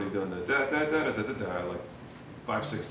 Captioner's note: mimicking melody